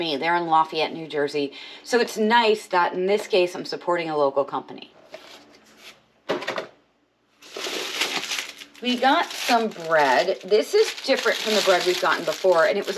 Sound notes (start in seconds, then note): 7.4 plastic wrapper crinkling